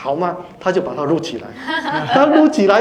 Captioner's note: laughter